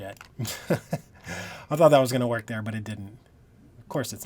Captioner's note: laughing